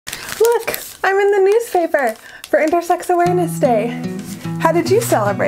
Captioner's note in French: bruit de journal froissé